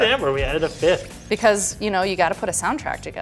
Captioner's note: laughs